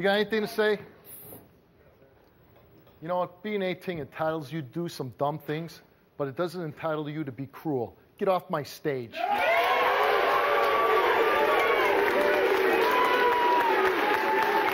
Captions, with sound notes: - You got anything to say? You know what? Being 18 entitles you to do some dumb things, but it doesn't entitle you to be cruel. Get off my stage. (audience cheering) (audience applauding)